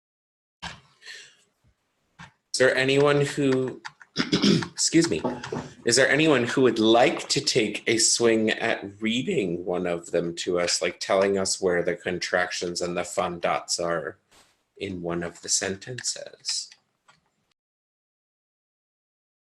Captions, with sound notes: Is there anyone who (clears throat) excuse me, is there anyone who would like to take a swing at reading one of them to us, like telling us where the contractions and the fun dots are in one of the sentences?